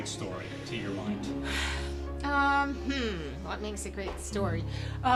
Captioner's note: sighing